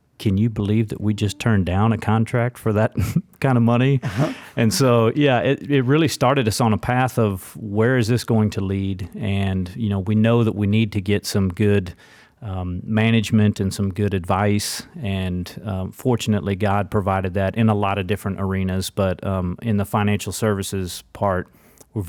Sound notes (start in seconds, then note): 3.9 chuckles